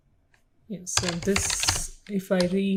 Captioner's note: keyboard keys clicking